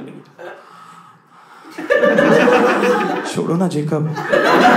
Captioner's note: deep breathing